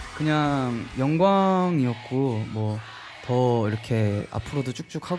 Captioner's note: Receiving chants at the Coachella